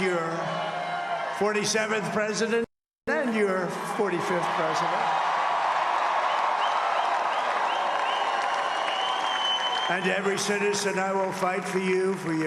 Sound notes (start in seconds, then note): 4.1 applause